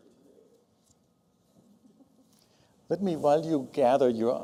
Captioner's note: laughter